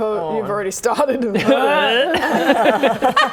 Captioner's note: laughing; dry heave